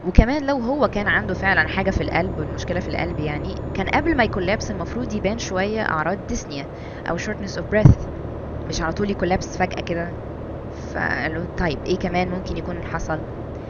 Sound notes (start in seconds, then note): 6.7 shortness of breath